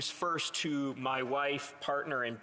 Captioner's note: speaking Alternate Language